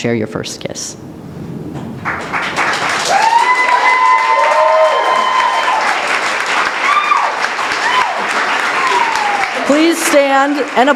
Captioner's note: cheering and applause